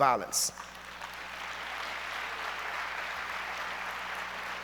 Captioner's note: audience applauds